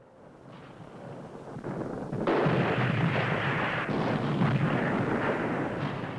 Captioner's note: rumbling and explosions